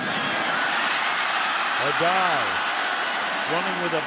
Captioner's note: cheering